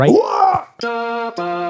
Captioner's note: screams